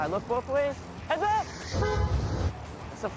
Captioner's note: car horn honks